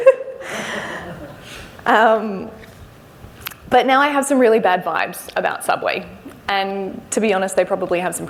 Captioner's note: laughs